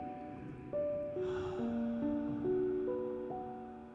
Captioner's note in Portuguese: suspiros